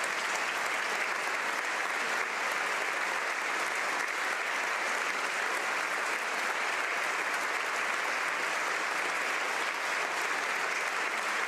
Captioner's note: applause